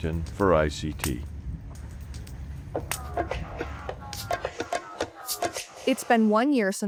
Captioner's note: fire blazing; upbeat music